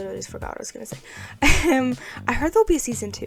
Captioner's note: laughs